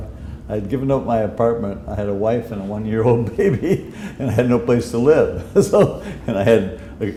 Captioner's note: chuckle